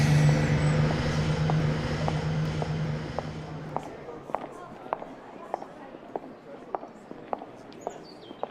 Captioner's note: bus roaring in, air release of brakes; stepping sound continues; stepping sounds